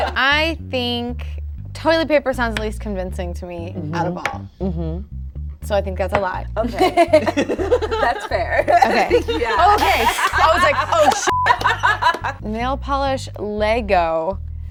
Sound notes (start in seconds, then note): 0.0 group laughing; 6.6 laughing; 11.3 buzzer beeping